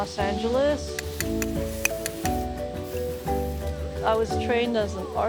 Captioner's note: tapping